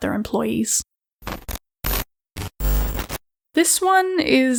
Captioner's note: glitching sounds